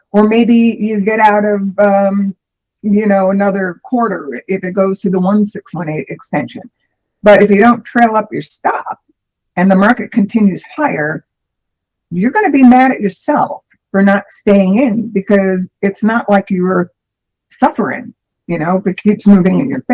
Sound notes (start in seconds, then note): none